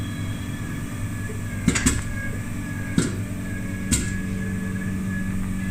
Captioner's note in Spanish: sonidos máquina de lavar